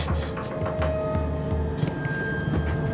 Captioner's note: Maddy panting; knocking continues